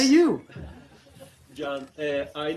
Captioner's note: laughter